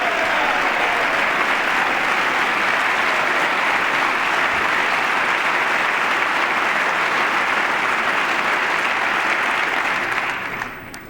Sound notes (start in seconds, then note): 9.3 applause